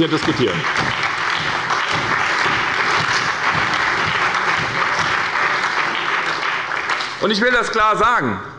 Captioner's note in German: Beifall bei der SPD und der CDU